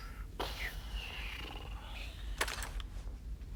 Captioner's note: Benny sighs